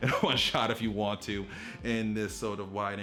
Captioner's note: laughs